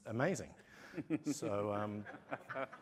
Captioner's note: laughter